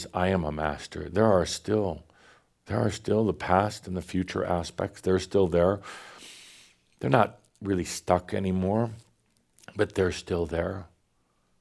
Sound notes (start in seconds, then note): none